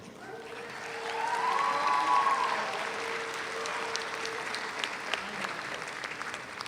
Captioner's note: audience cheers; audience applauds